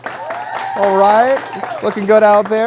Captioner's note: applause